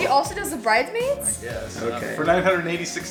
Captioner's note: male Voice